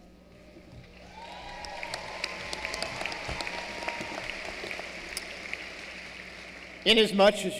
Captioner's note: applause